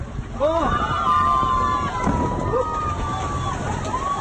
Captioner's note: crowd cheers loudly